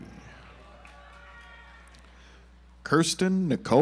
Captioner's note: audience applauds